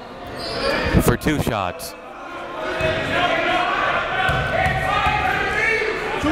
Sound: cheering and jeering

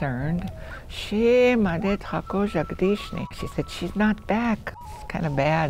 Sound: foreign language

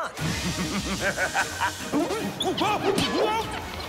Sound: maniacal laughter

